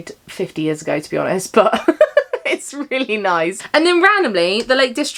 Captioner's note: laughs